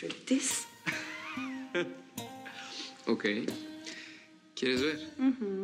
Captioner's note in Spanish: risas